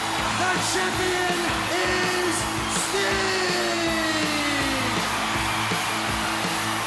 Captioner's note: crowd cheering